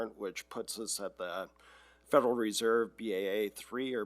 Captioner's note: none